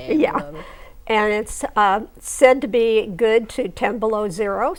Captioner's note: laughing